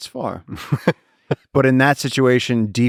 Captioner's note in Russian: Лекс смеётся